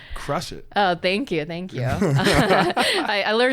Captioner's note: both laughing